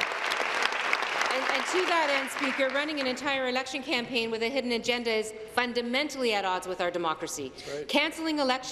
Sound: applause

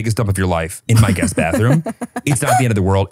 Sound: laughs

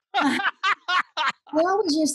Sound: he laughs

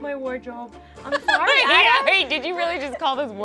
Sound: laughing

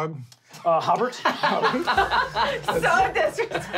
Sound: laughing

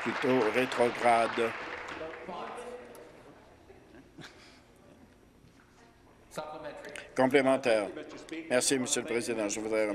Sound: applause

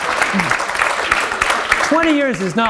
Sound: applause

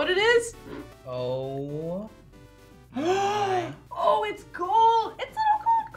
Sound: gasps

